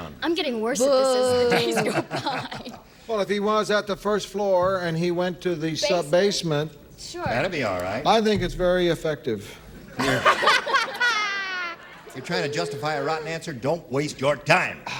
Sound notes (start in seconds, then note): 12.2 laughter